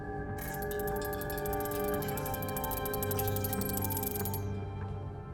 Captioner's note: insect clicking